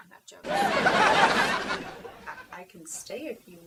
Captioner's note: audience laughing